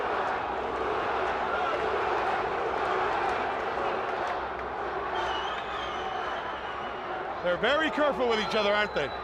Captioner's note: crowd chatter